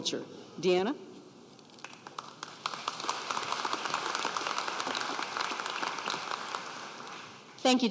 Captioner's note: applause